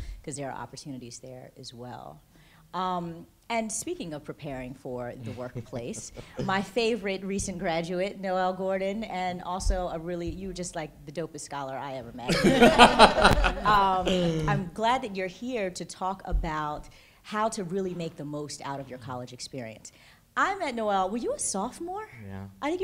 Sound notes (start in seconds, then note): 12.2 laughter